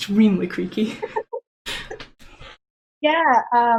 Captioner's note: laughing